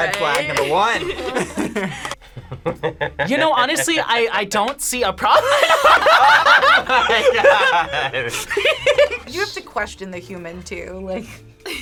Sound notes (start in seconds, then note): 0.0 group laughs; 0.6 laughs; 5.4 laughs